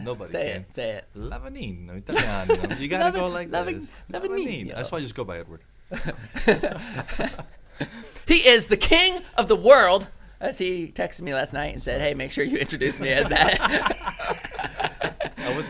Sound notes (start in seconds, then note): 2.2 laughs; 5.9 men laughing; 12.7 men laughing